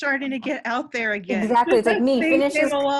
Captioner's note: laughing